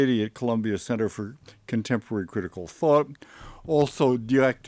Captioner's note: none